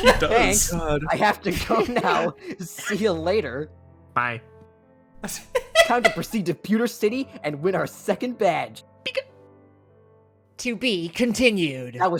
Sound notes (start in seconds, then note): 0.0 laughs; 5.2 laughs